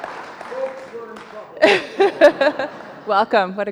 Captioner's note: laughs